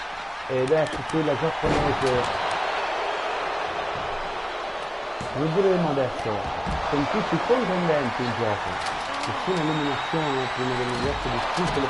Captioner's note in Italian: Applauso